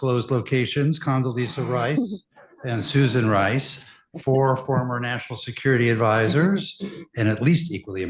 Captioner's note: laughter